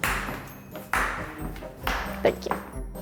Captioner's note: clapping